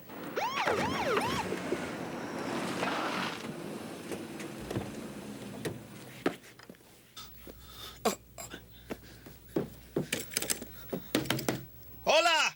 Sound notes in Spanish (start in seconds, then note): 0.0 Sirene pulsando; 9.2 Batidas na porta